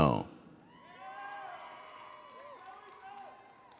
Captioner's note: audience cheers and applauds